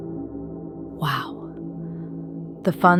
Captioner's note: whispers